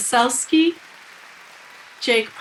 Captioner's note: people cheering